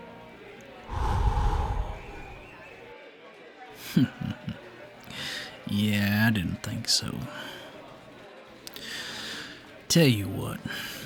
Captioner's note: chuckles